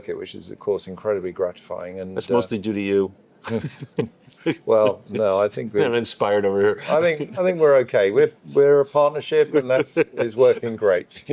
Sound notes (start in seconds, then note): 3.4 laughing